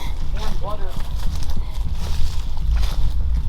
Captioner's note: rustling leaves